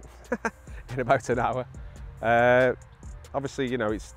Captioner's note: laughs